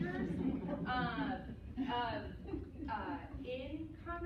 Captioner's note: laughter